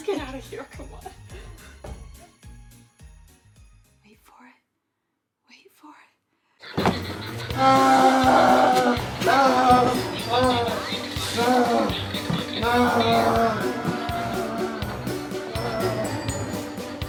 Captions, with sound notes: Let's just get outta here, come on. Wait for it, wait for it. (Longbutt screams) - Help! No! No! (frantic music)